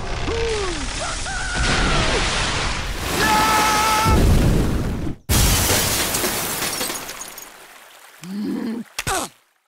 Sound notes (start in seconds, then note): 3.2 Scrooge screams; 5.4 windows breaking